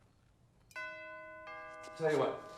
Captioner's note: doorbell chimes